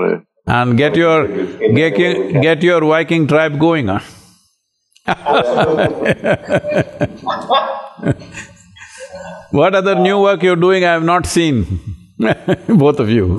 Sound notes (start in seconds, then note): 5.0 laughter; 12.0 laughs